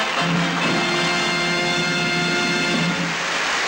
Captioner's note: mid-tempo lively music; crowd applauds